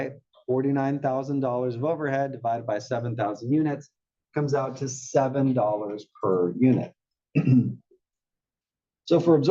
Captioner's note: cough